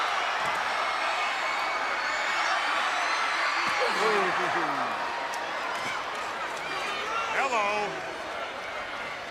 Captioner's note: crowd cheering